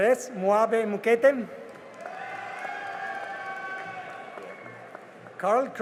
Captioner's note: cheering and applause